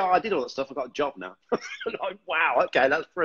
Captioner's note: laughs